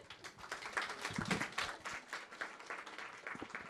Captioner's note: audience applause